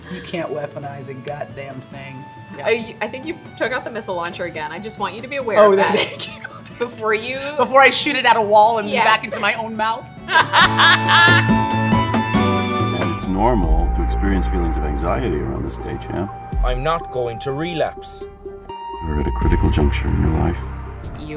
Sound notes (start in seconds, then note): 10.2 laughter; 10.5 upbeat music